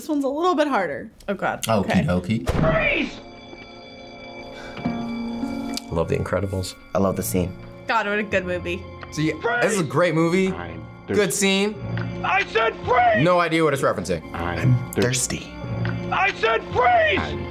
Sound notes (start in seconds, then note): 2.8 alarm blares; 4.7 gasps